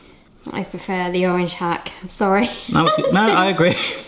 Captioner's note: chuckles